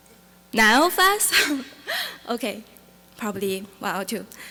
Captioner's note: laughing